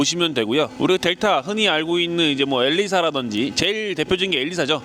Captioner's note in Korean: 엔진